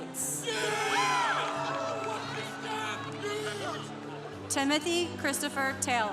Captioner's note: congregation cheering